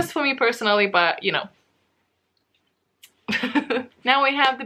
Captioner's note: laughs